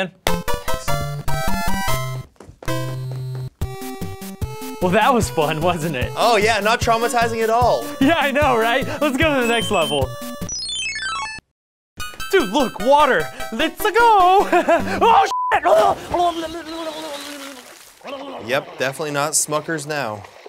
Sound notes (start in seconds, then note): 0.1 triumphant music; 9.3 chiming; 14.3 chuckles; 15.7 gurgling